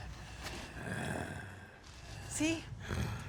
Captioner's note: zombie walter growling